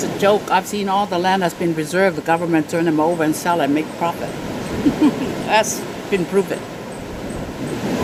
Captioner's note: laughs